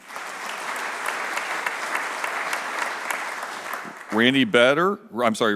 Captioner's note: applause